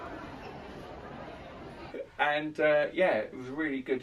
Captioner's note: crowd murmurs